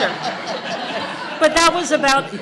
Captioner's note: audience laughter